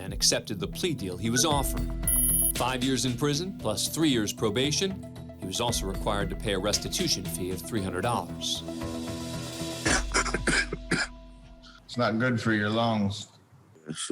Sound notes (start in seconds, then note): 9.8 coughs